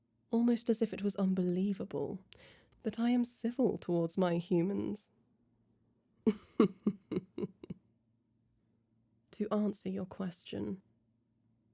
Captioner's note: chuckle